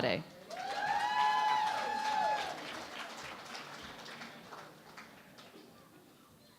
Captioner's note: cheering and Applause